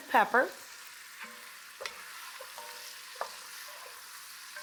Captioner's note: food sizzling